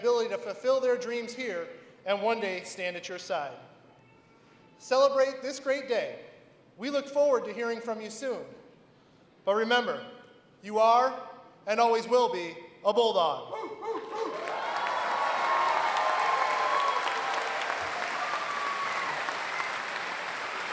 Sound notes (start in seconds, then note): 14.2 applause